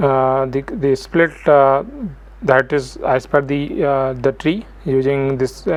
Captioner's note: argument; argument